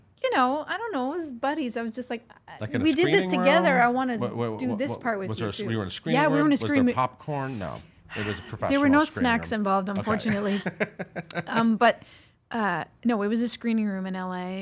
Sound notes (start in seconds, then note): 10.0 laughs